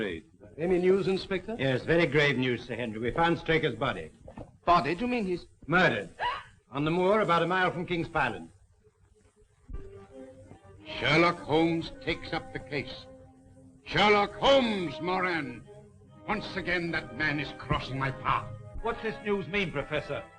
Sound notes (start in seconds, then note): 6.2 gasping; 9.9 suspenseful orchestral music